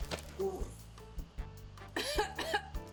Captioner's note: retches; coughs